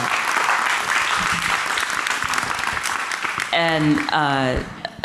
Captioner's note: audience clapping